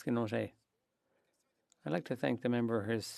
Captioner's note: speaking French